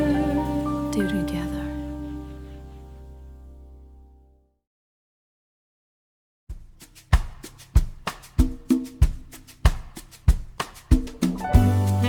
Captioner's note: doo-doo, doo-doo